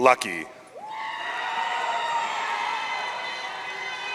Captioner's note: audience cheering